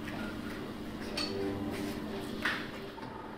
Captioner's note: clattering, whirring